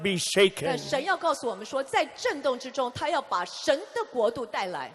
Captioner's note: interpreter speaking in foreign language